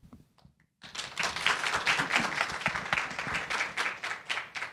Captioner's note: audience applauding